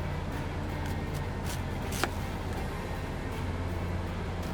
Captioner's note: apple crunching